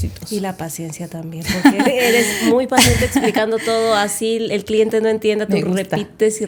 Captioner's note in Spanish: risas